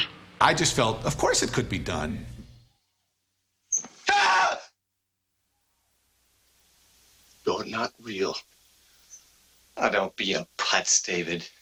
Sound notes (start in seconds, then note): 3.8 screaming